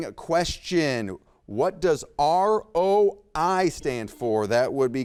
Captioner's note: buzzer beeps